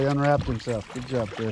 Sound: fish splashing

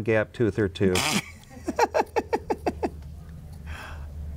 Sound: woman laughs

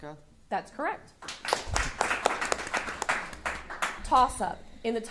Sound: audience applauding

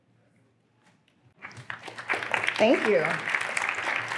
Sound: applause

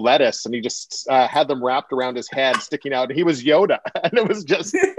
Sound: laughter

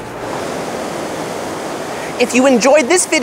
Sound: ocean waves lapping

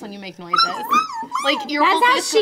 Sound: whimpering sounds

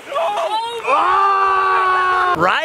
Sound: excited cheering

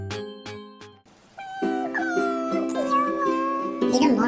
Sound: crying sound

